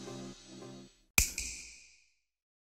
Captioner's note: snap